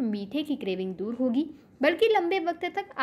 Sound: hindi

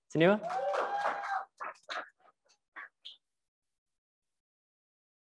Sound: crowd applauds and cheers

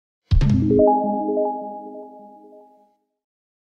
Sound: chimes

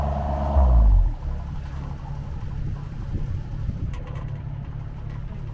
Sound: engine roaring

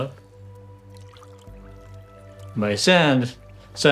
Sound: water pouring

